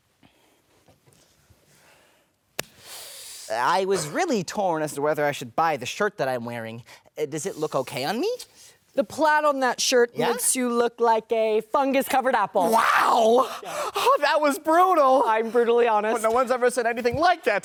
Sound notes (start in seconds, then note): 2.5 hands slap; 2.6 teeth hiss